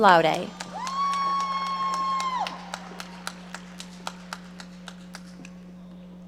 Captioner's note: audience cheering and applauding